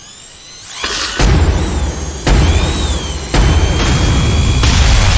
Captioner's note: electronic whirring; gun firing; explosions booming